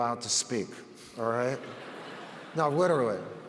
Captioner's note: audience laughs